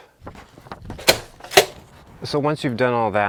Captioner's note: door handle clicks